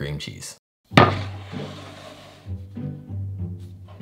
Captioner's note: board sliding